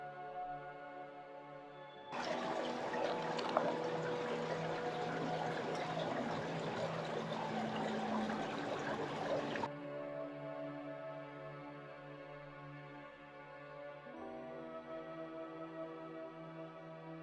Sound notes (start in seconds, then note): 4.3 sound of water